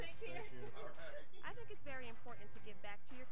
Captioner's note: laughing